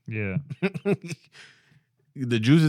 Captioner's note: laughing